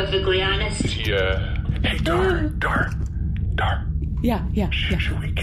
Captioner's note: hushed